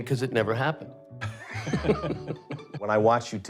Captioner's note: laughter